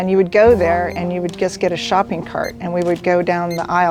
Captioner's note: scanner beeping